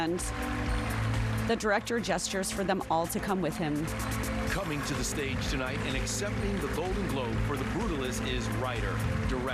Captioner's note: applause